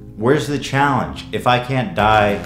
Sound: none

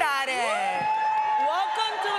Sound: cheering

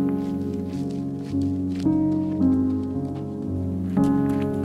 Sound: footsteps crunching

